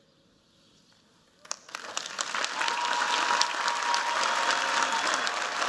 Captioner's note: cheers, applause